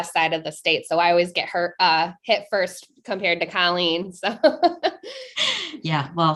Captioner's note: chuckling